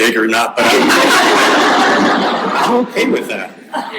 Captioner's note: audience laughing